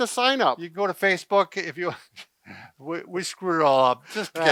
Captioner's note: laughs